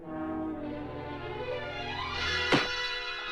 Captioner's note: thud